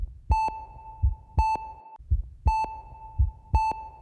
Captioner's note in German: Regelmäßiges Piepsen